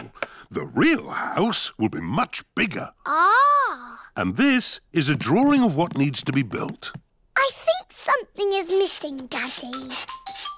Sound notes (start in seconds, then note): none